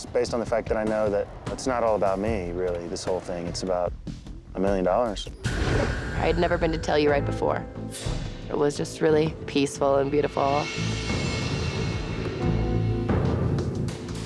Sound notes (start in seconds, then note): 5.4 graphics whoosh; 10.7 suspenseful music